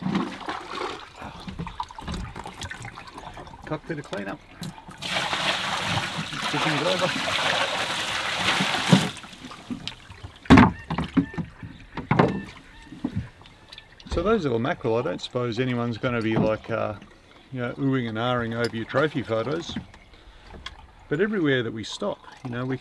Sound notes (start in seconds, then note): 0.2 water sloshing; 5.9 water splashing